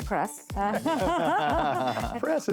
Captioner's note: laughing